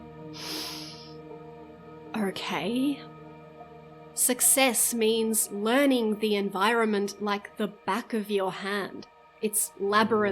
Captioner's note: long sigh